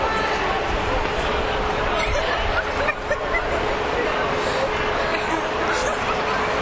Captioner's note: laughing